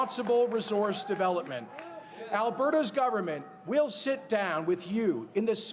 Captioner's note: cheers and applause